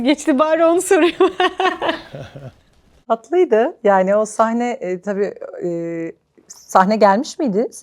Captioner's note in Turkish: kahkaha